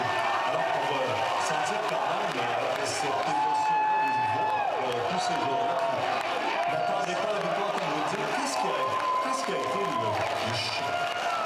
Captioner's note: cheering